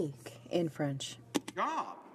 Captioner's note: speaking in french